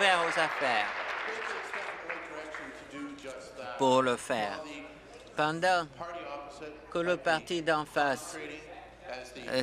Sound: applause

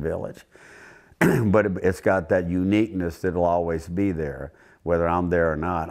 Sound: cough

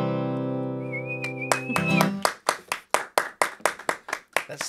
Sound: claps

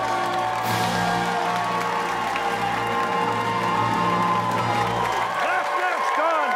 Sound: fanfare plays; cheers and applause

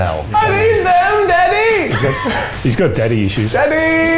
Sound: laughing

